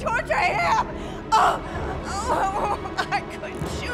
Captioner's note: gasping